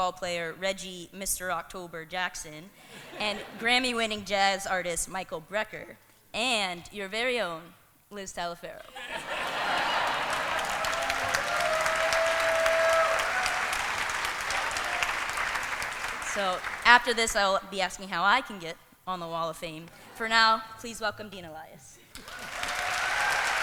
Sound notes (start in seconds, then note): 8.8 laughter; 9.0 cheering